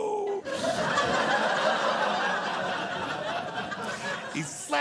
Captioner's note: audience laughing